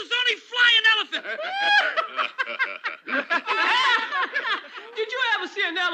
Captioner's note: laughter